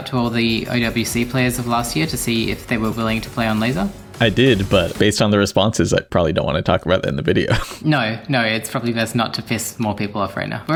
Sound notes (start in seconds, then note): 7.4 chuckles